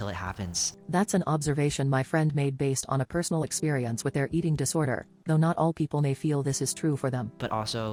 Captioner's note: robot voice